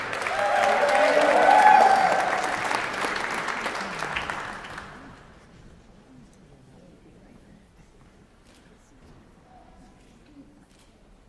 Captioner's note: cheering and Applause